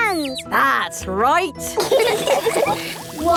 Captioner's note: all laughing